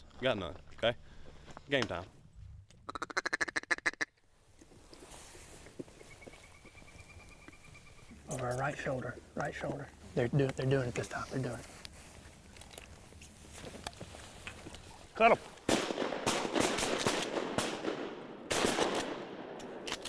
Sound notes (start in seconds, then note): 2.8 duck call quacking; 15.7 rifle bangs repeatedly